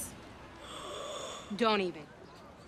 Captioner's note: gasps